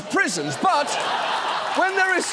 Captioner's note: audience laughing